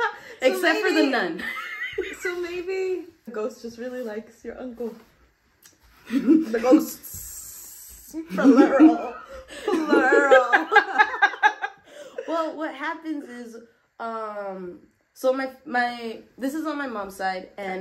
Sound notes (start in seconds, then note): 8.2 laughter